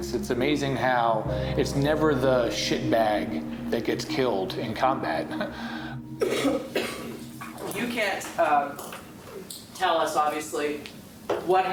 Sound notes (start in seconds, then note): 5.7 laughs; 6.1 coughing